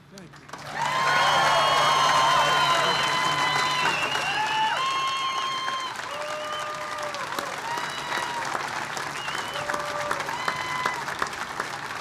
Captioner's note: applause